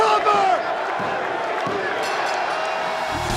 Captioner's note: hand pounding; bell dings